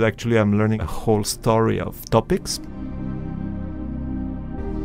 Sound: voiceover

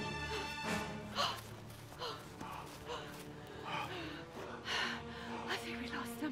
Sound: gasping

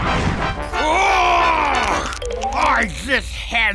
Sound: roaring

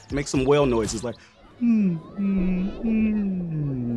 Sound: whale sounds

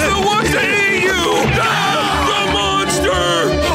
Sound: both screaming

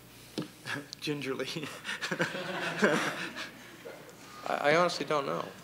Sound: laughter

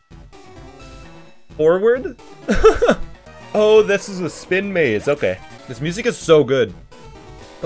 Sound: laughs

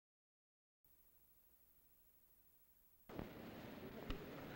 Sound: silence

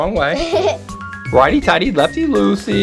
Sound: giggling

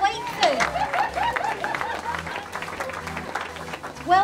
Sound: clapping

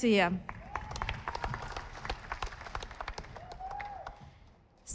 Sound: audience applauding

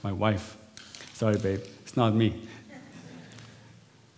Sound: laughter

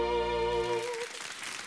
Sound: audience applauds

